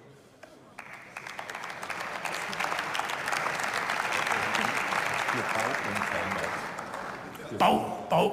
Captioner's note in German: Beifall